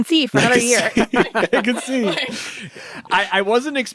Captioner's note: all laugh